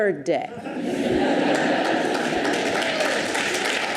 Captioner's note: audience laughs; audience applauds